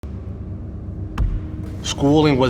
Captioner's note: ball bouncing